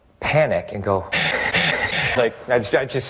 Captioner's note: hyperventilates